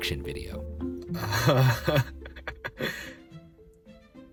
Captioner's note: laughs